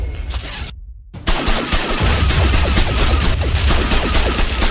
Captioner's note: explosion booms; gun blasting